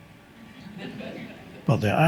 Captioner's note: audience laughs